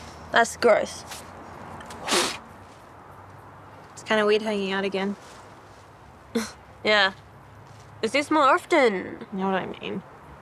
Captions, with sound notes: That's gross. (breath whooshes) - It's kind of weird hanging out again. - (scoffs) Yeah. Let's do this more often! - You know what I mean.